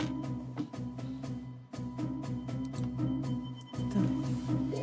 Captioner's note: keyboard clacking